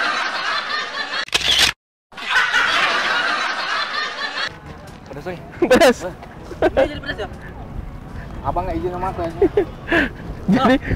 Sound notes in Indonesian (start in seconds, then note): 6.8 ketawa